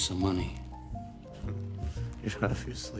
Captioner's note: chuckles sarcastically